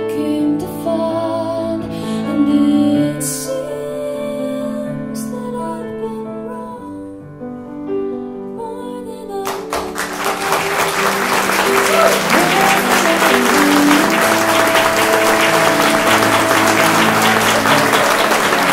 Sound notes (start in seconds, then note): 9.4 applause for end of live radio broadcast